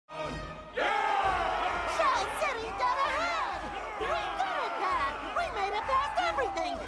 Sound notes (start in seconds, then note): 0.7 everyone cheering